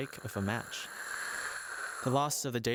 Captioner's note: a fire burns